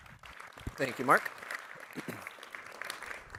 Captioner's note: applause